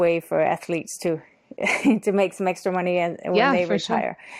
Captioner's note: chuckles